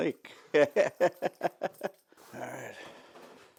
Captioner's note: chuckling